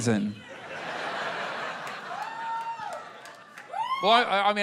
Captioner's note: laughter